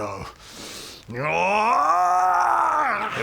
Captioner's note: grrgrgrarahrrhgggrhrgghahhgghhgh